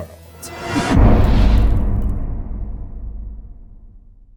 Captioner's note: impact